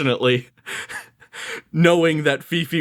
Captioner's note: chuckles